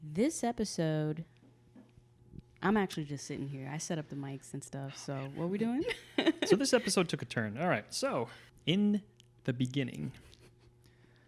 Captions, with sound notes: This episode, I'm actually just sitting here. I set up the mics and stuff. - Oh man. - So what are we doing? (laughs) - So this episode took a turn. All right, so in the beginning.